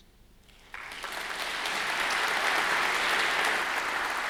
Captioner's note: audience applauds